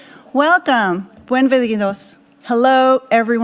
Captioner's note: speaking in foreign language